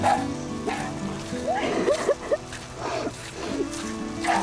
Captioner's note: sobbing